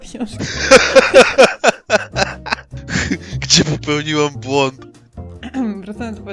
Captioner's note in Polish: śmiech